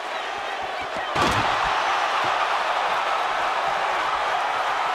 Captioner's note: table crashes